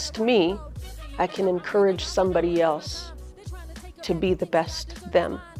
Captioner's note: speaks in foreign language